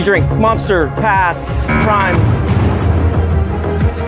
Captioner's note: buzzer sounds